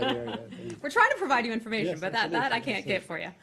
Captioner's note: laughter